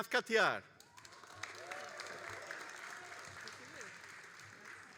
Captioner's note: all applauding